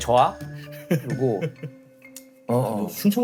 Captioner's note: bursting into laughter